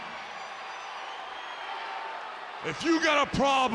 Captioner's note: audience cheering